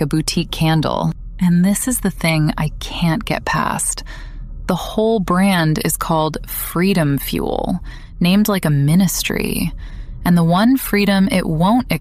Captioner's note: breath